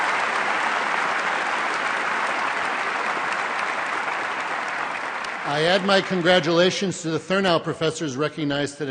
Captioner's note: applause